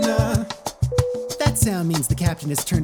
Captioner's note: airplane chime